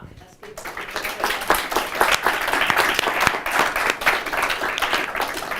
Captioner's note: applause